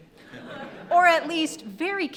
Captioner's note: audience laughing